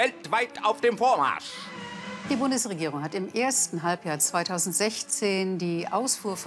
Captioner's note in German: schnarrt